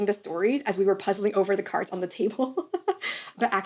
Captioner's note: laughs